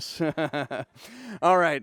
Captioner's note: laughing